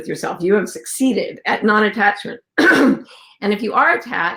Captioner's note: throat clearing